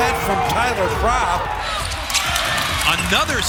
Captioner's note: crowd cheering